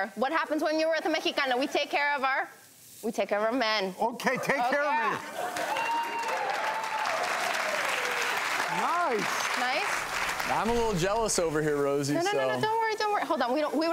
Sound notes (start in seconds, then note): 5.4 applause